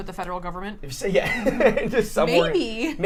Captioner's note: laughs